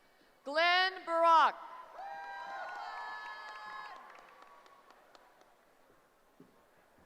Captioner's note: cheering